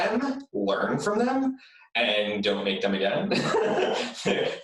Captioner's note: laughs